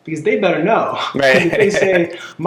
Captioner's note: laughing